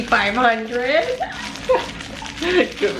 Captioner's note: both chuckling